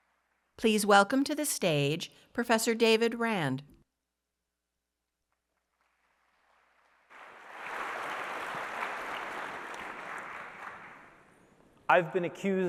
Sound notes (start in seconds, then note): 7.2 applause